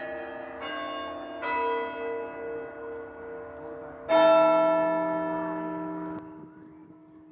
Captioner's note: church bells